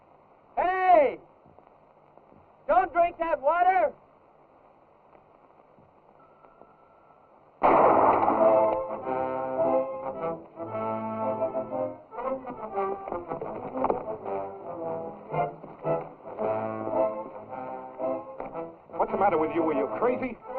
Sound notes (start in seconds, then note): 7.6 gunshot; 9.3 tense music